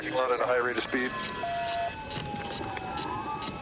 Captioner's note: sirens blaring